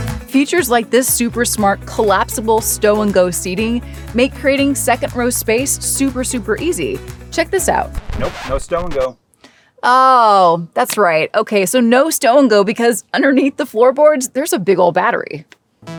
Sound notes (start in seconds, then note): 7.8 record needle scratch; 15.8 rhythmic music